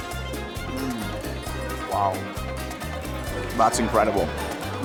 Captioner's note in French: bruits de heureux